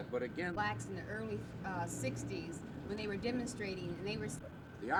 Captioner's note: unknown woman talking